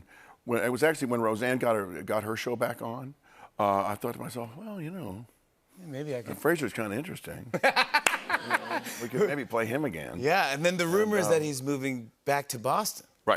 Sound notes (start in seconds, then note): 7.5 laughter